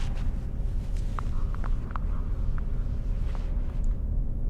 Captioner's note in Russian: хрусь-хрусь